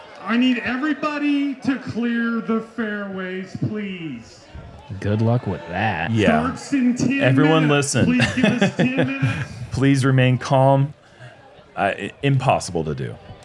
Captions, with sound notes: I need everybody to clear the fairways, please. -Good luck with that. -Yes. Everyone listen. [chuckles] Please remain calm. Impossible to do.